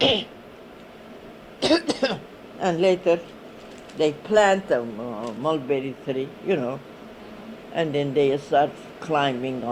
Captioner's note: she coughs